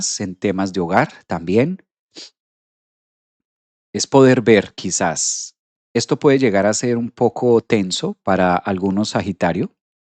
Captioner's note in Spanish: resoplido